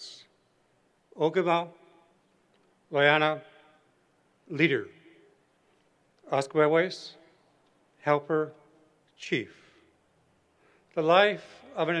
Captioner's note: non-english